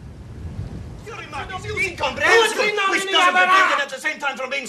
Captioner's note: men shouting